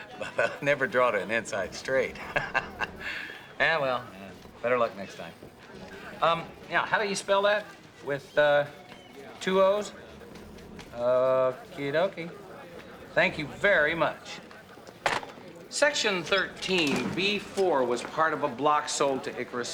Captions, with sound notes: Well, I never drawed an inside straight. [laughs] Eh, well, better luck next time. Yeah, how do you spell that? With two O's? Okey dokey. Thank you very much. Section 13 B 4 was part of a block sold to Icarus